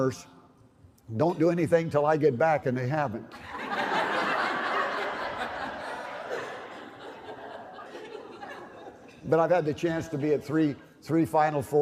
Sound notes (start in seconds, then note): 3.3 laugher